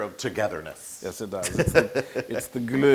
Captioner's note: laugh